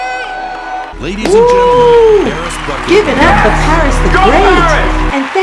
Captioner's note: applause